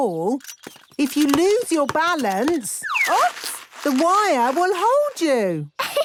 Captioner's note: laughter; snorting and giggling